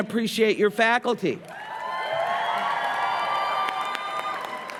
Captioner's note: applause, cheering